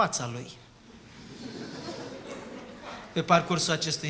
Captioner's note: laughter